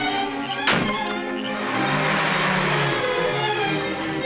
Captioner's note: car engine roars; car door shuts; dramatic, orchestral music